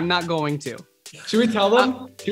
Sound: Corbin Laughing

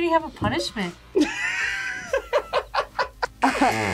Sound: both laugh

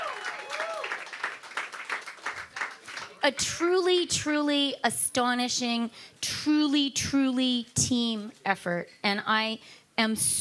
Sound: cheering and Applause

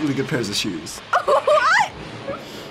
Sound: laughing

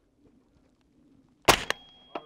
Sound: bang

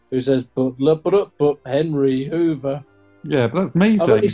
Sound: hums tune to inspector gadget

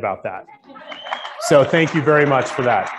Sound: applauding

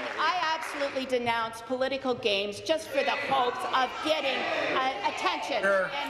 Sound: applause

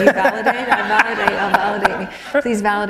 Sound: laughter

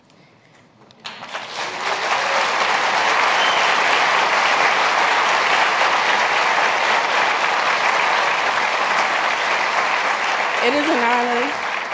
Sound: applause

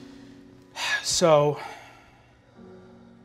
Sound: sighing

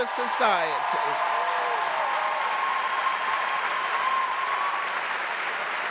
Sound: audience cheering and applauding

